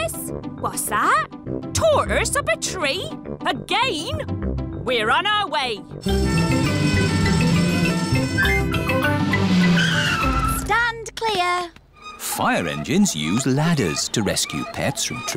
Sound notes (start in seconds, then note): 6.1 siren wailing